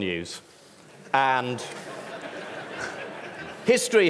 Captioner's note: ripple of laughter